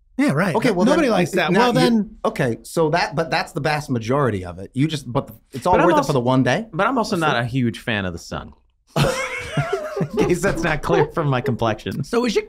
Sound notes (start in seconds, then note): 8.9 all laughing